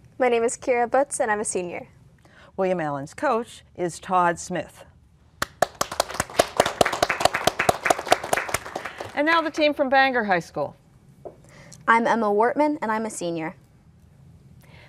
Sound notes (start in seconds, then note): 5.4 applause